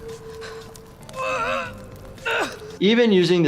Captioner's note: groaning